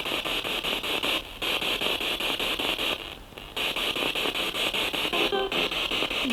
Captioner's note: noise of the spiritbox in the background